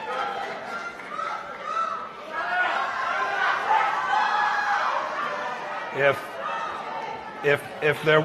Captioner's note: shouting off-mike